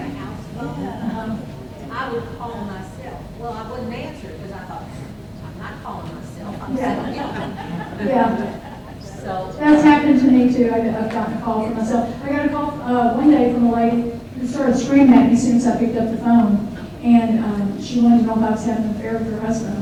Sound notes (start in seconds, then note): 0.0 audience agreeing; 6.4 audience laughs